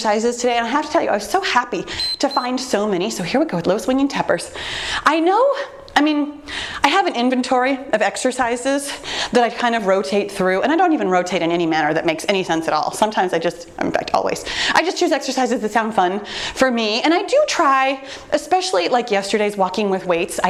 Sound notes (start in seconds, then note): 1.9 timer beeps